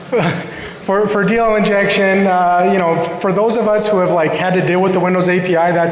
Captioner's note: laughter